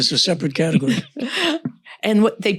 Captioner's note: laughs